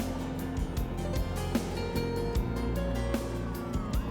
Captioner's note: sirens blaring